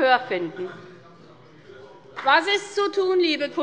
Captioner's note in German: Beifall bei der FDP